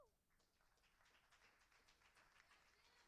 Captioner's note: applauding